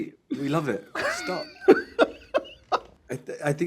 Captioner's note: laughing